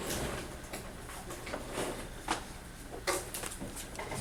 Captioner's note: none